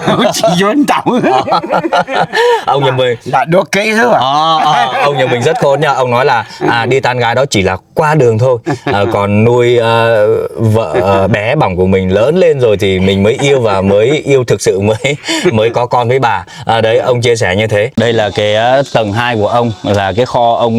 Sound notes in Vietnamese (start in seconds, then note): 0.0 tiếng cười